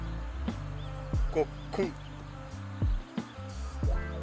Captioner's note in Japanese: ゴックン